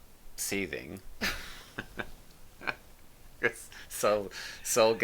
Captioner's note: both laughing